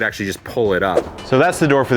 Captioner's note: whooshing